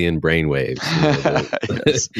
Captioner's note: laughter